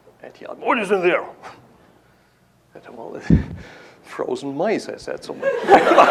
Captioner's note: chuckles; laughter